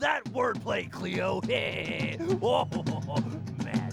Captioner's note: snickers